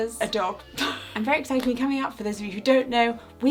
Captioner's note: laughing